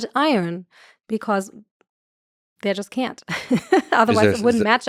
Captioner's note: laughs